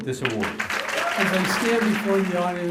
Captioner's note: applause